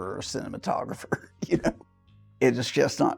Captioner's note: laughs